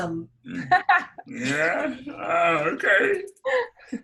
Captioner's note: laughs